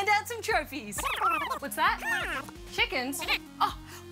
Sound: voices jabbering

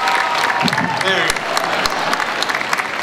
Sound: light thud; crowd applauds

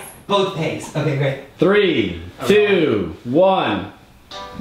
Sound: voiceover; upbeat music

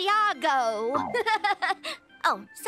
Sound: laughing

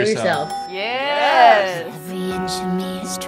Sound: bell dings; singing

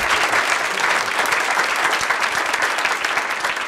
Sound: applause

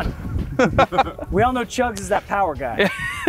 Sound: laugh; laugh

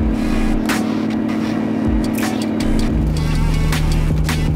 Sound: truck engine roaring

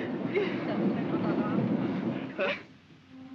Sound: trolley rumbles; soft music

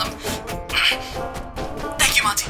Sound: puerto rico grunts

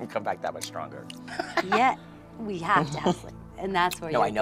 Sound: laughs

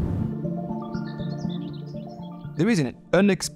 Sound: birds tweeting

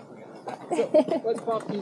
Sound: giggles

